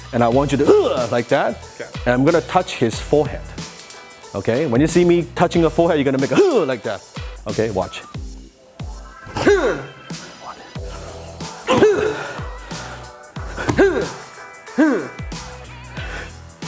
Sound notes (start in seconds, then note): 11.9 exhales